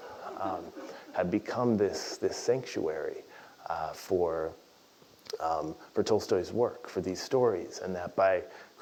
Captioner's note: laugh